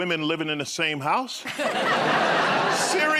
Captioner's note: laughter